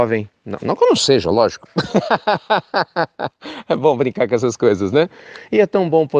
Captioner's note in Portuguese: risos